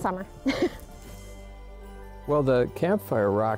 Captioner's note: laughs